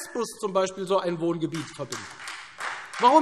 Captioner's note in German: Beifall Freie Demokraten